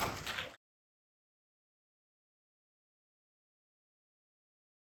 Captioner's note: audience applauding